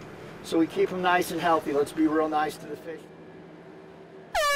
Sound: horn sounds

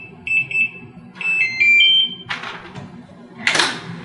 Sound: door

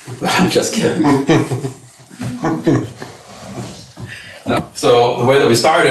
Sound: viewer laughing

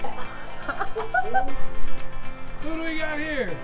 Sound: laughs

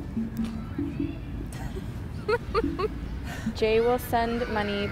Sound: laughter

